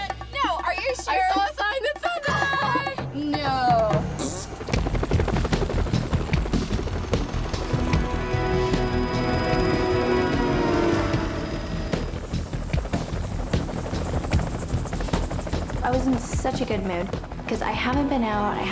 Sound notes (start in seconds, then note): 3.6 blows raspberry; 4.9 gentle ominous music; 4.9 helicopter rotors flattering